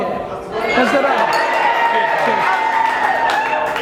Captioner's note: audience cheers and applause